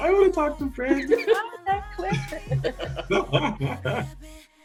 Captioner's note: all softly laughing